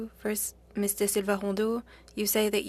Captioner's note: speaking French